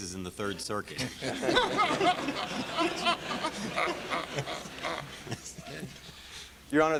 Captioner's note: laughter